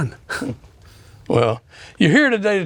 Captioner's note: laughing